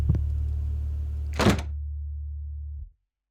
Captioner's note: door closes